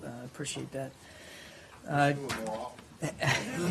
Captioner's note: laughter